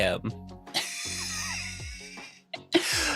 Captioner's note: laughter